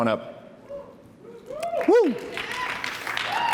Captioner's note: applause